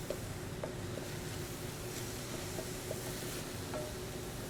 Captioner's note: pan sizzling